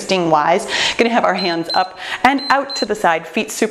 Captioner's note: timer beeps